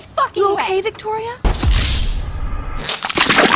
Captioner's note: Wasted sound from Grand Theft Auto